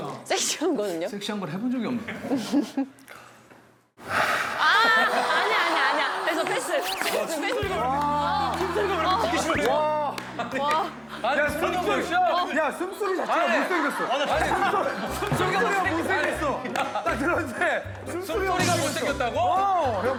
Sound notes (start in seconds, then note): 4.0 exhaling; 9.9 his unappealing heavy breathing